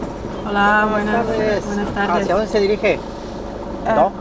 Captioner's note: Spanish